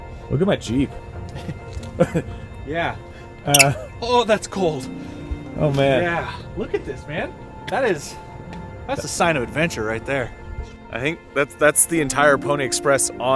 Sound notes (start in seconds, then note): 1.2 chuckling